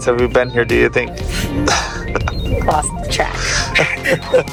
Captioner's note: exhales